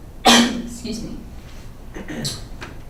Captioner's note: coughs